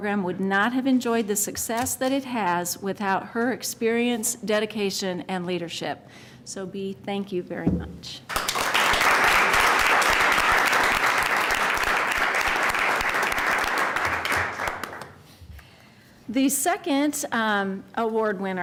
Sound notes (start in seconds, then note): 8.3 applause